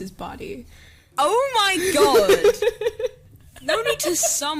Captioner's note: laughs